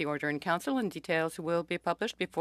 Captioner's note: speaking French